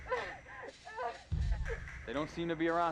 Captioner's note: crying